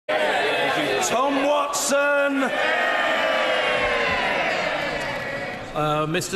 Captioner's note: cheers